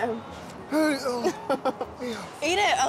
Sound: laughing

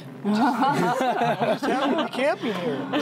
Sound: laughing

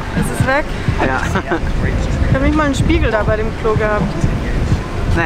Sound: laughs

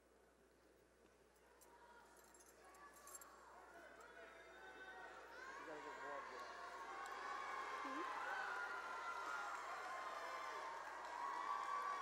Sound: cheering and applause

